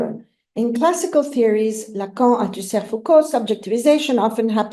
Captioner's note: non-english